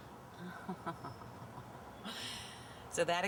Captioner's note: laughing